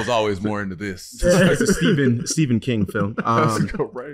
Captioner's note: laughing